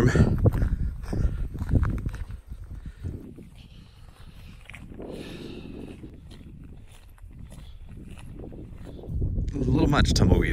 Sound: wind blowing

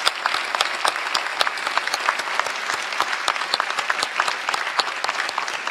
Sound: applause

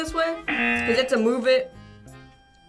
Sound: buzzer rings

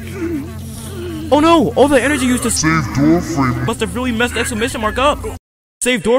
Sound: painful groaning; “SAVE DOORFRAME” echoes

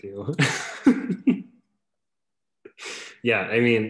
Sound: laughs

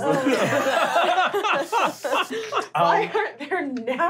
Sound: laughing

